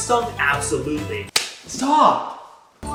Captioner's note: slaps